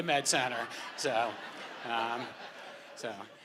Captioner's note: laughter